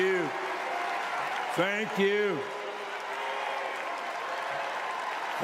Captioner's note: applause